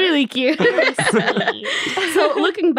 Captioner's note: all laughing